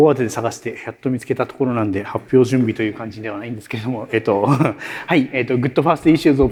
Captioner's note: chuckles